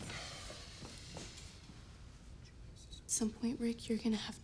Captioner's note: Rick sighs